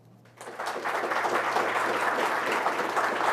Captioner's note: applause